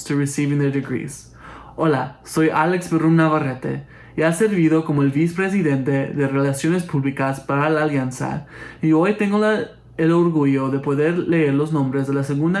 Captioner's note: spanish